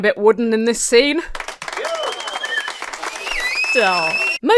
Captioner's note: audience applauds and cheers